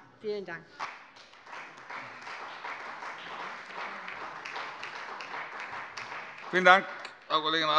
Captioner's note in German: Beifall bei der CDU und dem BÜNDNIS 90/DIE GRÜNEN